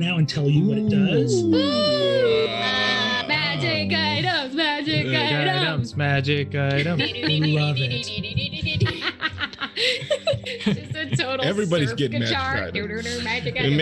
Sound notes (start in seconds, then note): 0.6 group ooo-ing; 9.1 group laughs